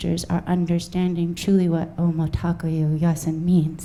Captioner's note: speaking native language